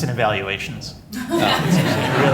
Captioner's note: laughter